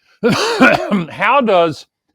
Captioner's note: Gore coughing